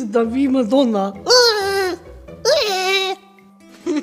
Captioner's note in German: Er kreischt; Lachen